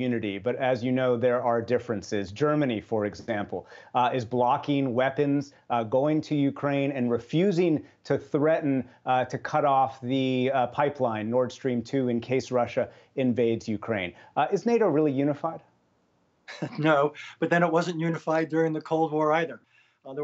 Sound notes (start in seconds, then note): 16.5 laughter